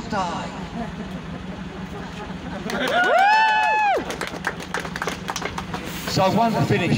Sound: laughter, cheering, applause

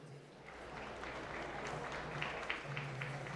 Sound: applause

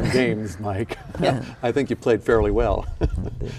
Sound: laughing

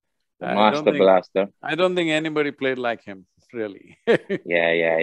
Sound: laughs

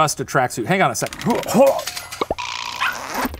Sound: grunting; mysterious zipping

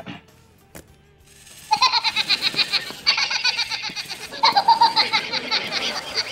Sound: laughing

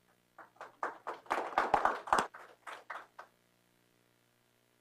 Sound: applause

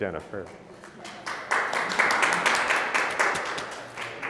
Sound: applause

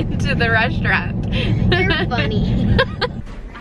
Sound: laughs

